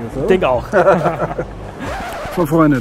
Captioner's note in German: lachen